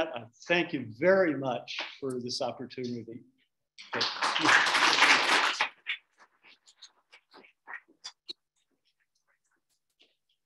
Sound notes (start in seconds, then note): 3.8 audience clapping